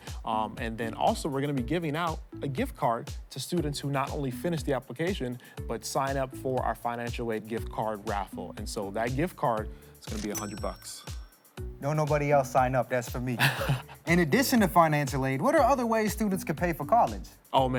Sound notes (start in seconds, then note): 13.4 laughing